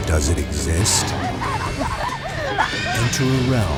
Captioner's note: woman screaming